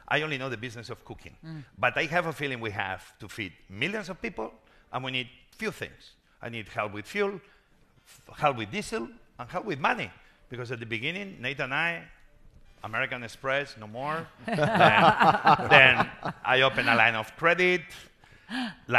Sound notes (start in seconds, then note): 14.4 panelists laughing